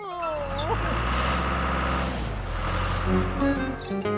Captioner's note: engine Running